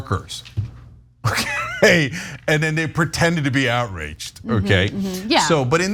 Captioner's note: laugh